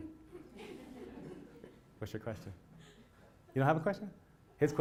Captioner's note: laugh